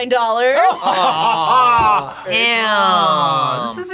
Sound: laughs

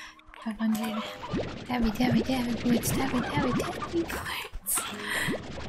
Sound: giggling

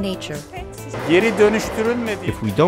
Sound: speaking foreign language

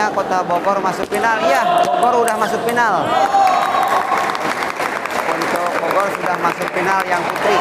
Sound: applause

